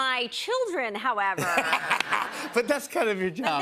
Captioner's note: laughter